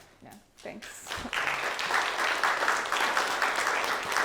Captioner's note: clapping